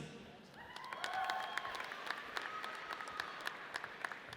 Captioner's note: audience cheers